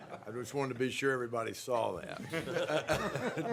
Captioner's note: laughter